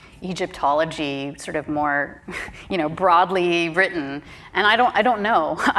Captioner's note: chuckles